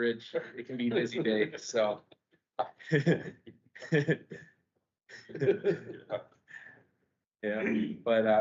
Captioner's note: laughter